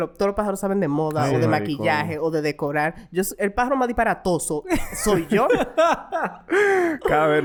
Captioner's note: laughs